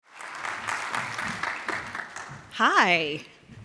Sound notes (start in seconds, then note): 0.0 audience applauds